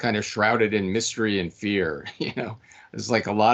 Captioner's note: laughing